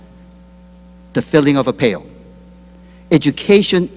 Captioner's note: none